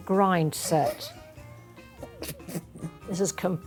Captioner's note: laughing